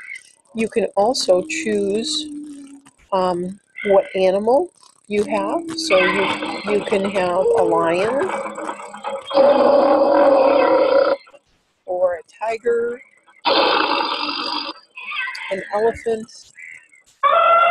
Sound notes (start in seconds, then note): 8.2 lion roaring; 13.4 tiger growling; 17.4 elephant trumpeting